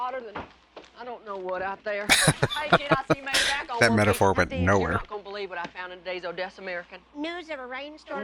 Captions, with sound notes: [Laughing] That metaphor went nowhere.